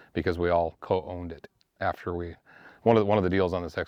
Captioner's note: none